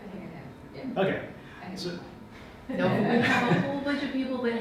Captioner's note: audience laughs; laughs